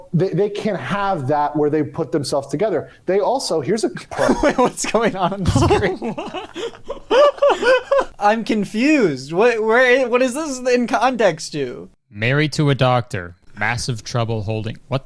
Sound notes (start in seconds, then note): 3.9 laughs; 6.0 both laughing